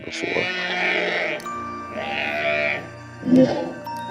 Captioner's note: creature growling